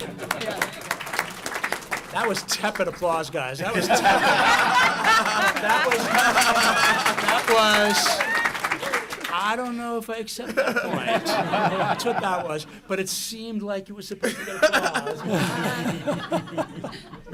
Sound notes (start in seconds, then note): 0.0 applause; 3.6 laughter; 14.2 laughter